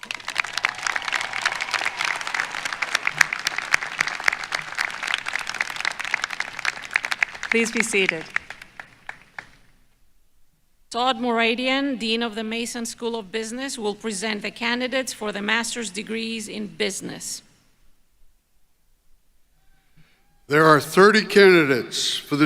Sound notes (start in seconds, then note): 4.8 applause